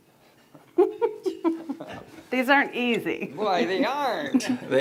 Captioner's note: laughs